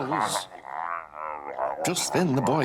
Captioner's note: Abiyoyo grunting